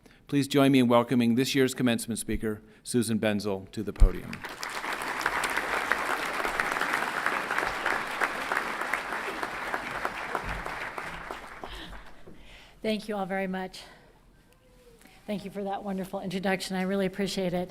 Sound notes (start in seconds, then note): 4.0 everyone clapping